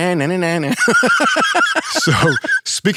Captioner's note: laughing